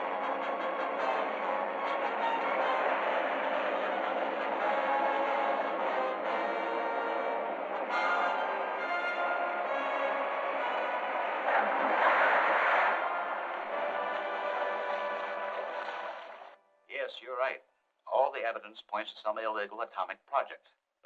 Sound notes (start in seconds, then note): 11.3 boat splashing